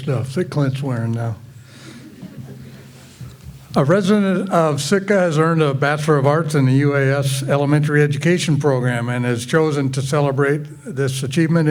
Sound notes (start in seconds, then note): 1.8 graduates chuckle